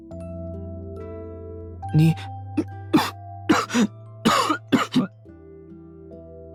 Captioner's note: cough cough